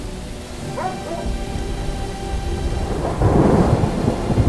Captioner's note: dog barking; storm raging